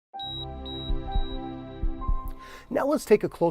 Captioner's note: beeping